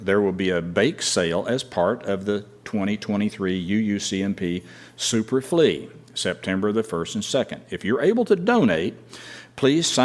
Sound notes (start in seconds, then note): none